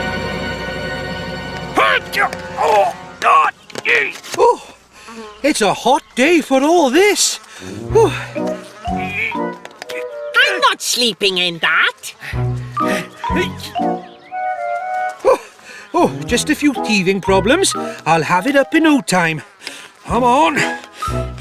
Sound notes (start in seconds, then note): 9.4 straining